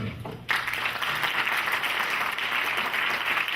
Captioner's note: clapping